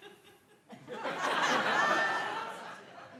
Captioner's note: laughter